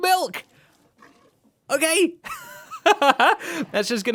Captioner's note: laughs